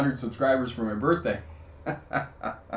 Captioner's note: laughing